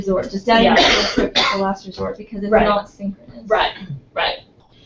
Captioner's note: cough